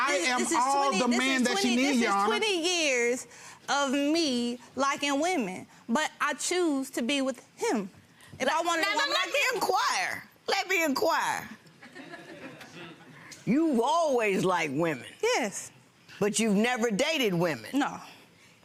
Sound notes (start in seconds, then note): 11.9 audience laughs